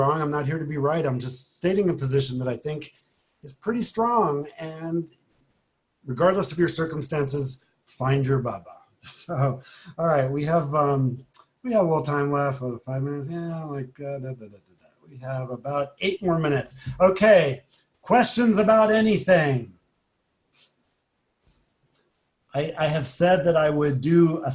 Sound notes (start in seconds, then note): 9.1 laughs